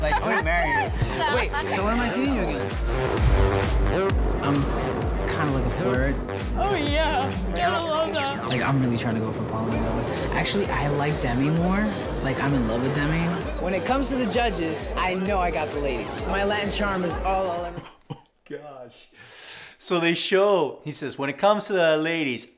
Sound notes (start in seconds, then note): 7.2 yawns; 16.6 laughs